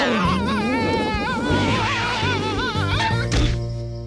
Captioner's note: screaming; cat screeches